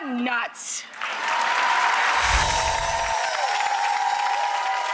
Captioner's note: audience clapping